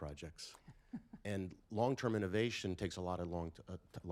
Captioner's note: laughter